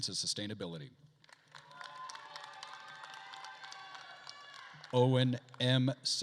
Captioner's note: attendees cheering and applauding